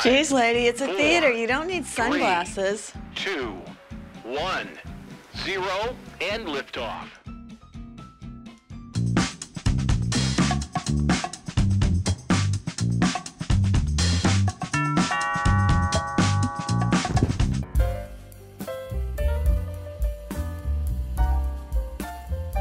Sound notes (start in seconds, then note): 9.0 funky Music; 14.7 doorbell rings